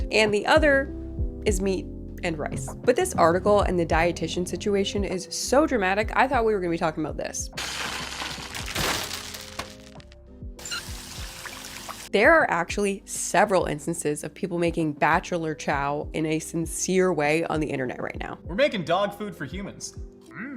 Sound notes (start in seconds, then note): 7.6 kibble rattling; 10.6 water sloshing